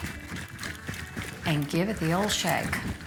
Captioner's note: liquid shaking